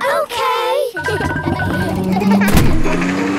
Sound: kids laughing

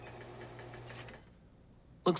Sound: whirring stops

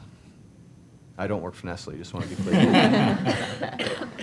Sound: laughter

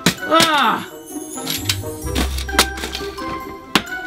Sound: groaning

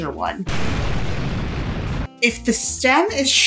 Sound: explosion blasting

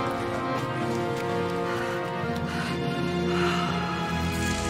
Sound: child breathing heavily

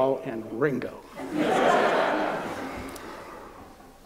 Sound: laughter

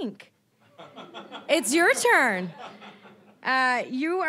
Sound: audience laughing

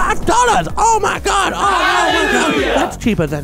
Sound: crowd shouts hallelujah

